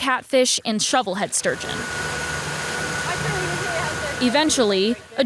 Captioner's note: boat motor humming